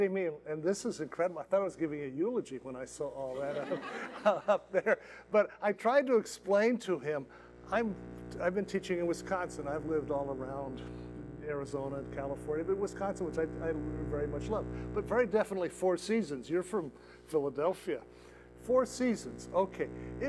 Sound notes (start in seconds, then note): 3.2 laughter